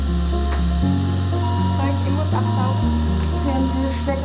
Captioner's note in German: Piepsen